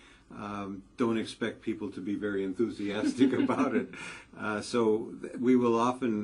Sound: laugh

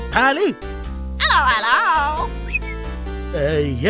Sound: whistles

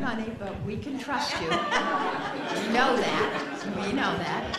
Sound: chuckles

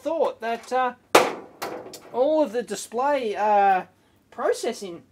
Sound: screwdriver bangs

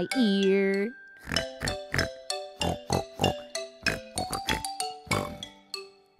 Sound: snort snort snort snort snort

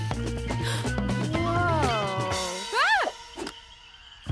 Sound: gasping

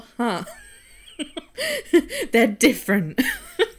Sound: wheezes

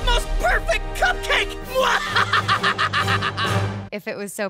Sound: laughing

